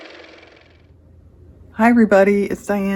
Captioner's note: car motor